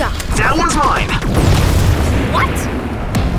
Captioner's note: Klik